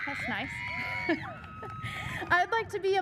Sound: audience member cheers enthusiastically

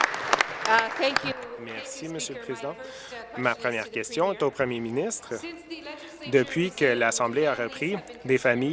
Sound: applause

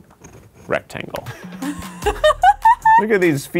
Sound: laughing

